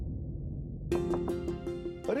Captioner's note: knock on the door